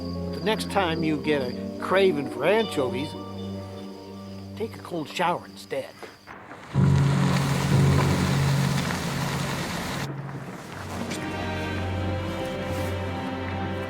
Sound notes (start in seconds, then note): 6.7 ominous music; 8.0 rain